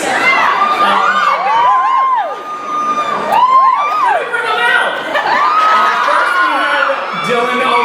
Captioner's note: girls screaming